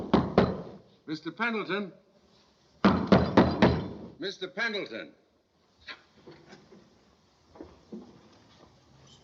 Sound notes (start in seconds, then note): 2.8 knocking